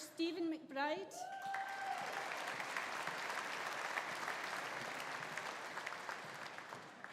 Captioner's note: audience cheering; audience applauding